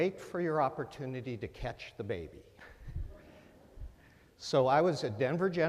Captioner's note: laughter